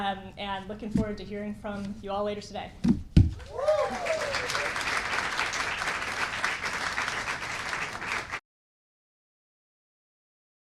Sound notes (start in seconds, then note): 3.4 appaluse and cheering